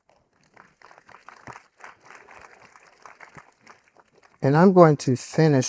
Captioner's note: audience applauding